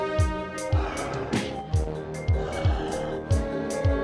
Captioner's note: heavy panting